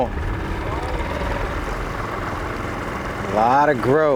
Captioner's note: boat motor burbling